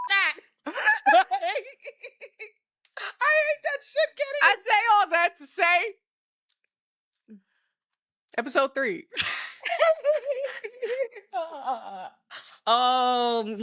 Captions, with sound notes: (laughing) I hate that shit, get it? I say all that to say, episode three. (laughing) Oh, they're gonna be so